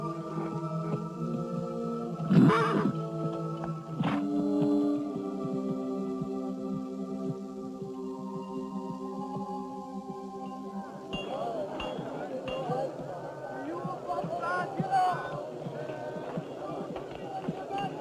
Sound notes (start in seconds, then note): 11.2 overlapping shouting